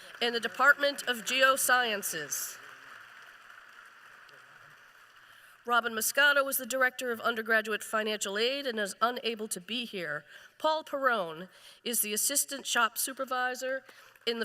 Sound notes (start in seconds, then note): 4.1 applause